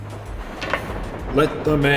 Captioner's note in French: Atterrissage sur du métal